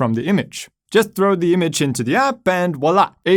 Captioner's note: murmurs